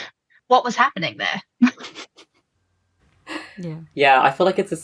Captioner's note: laughs